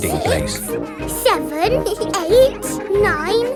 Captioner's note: both giggle